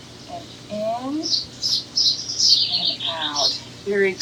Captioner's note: bird chirps